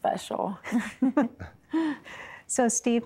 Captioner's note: giggling